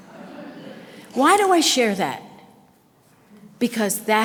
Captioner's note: audience laughter